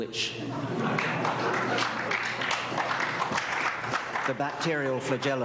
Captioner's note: applause